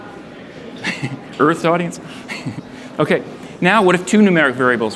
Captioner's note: laughs